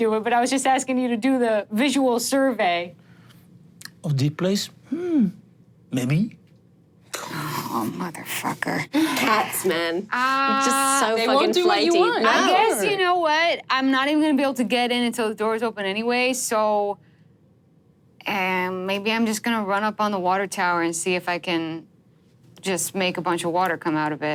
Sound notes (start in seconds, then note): 6.4 groans